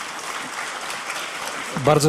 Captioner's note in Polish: oklaski